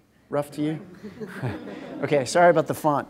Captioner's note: laughter